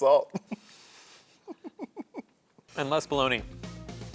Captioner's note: laughter